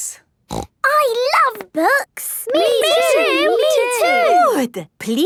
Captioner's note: snorting